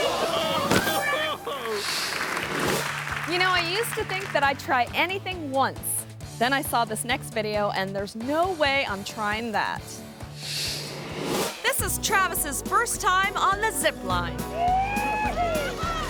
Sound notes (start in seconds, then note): 0.0 audience applauds; 0.1 whimsical music; 10.4 screen whooshes